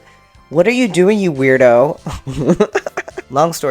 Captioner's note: laughter